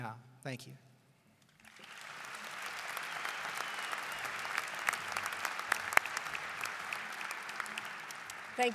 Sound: applause

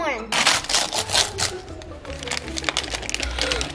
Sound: paper ripping

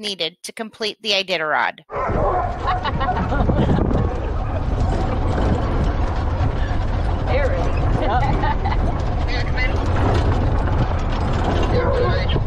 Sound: dogs barking and people laughing

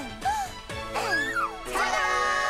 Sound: excited squealing

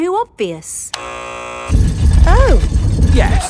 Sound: buzzer sounds

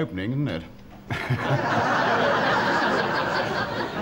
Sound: laughter

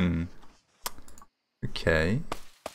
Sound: tsks

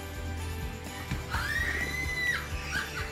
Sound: person on phone screaming; person on phone laughing

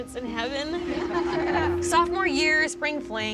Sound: crowd laughing

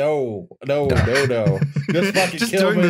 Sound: laughs

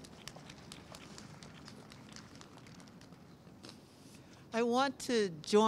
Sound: clapping

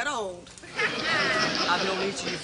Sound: audience laughs

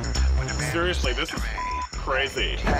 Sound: beep

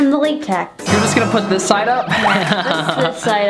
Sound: laughs

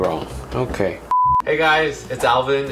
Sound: beeps

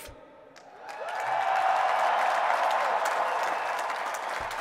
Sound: applause

